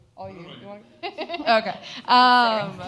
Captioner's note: laughs